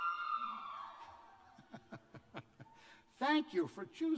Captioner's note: cheers; laughter